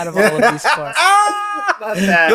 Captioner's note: laughs